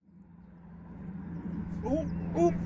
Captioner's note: plane flying overhead